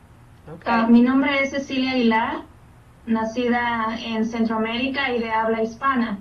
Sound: speaking in Spanish

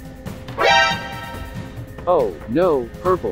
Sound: exclaiming

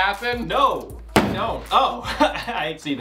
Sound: bang; laughs

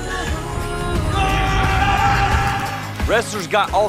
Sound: screaming

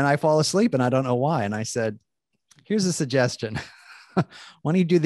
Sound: laughing

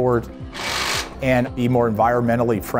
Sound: screwdriver buzzing

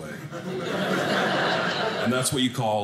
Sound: audience laughing

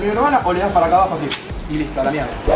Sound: click

